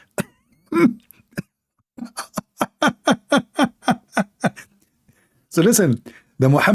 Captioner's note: Ketawa